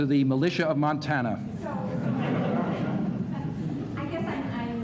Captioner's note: laughter